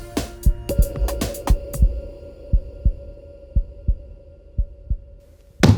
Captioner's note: heartbeat thumping in the background; heartbeat getting LOUDER